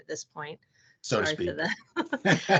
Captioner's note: laughing